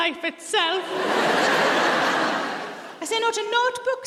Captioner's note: audience laughs